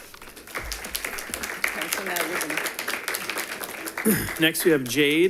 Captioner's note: audience applauding